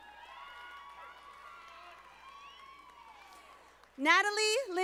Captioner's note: audience applauding